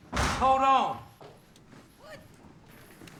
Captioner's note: doors thumping